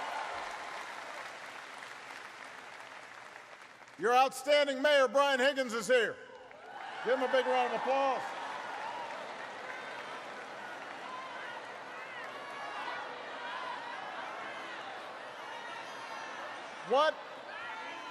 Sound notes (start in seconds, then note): 2.8 applause